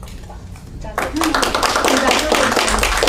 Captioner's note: applause